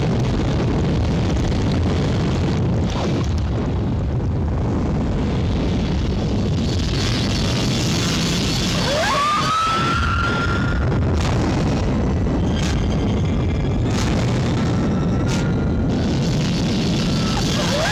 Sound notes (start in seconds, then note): 6.8 wasps buzzing; 8.6 wasp shrieking; 12.6 volcano hissing; 12.6 volcano rumbling